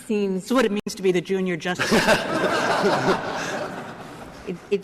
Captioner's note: laughter